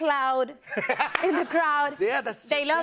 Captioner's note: laughter